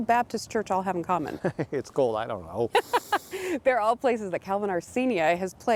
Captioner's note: chuckles